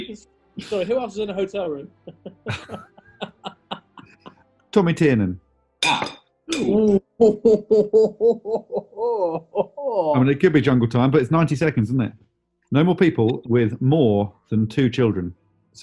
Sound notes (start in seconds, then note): 1.9 laughing; 6.6 chortling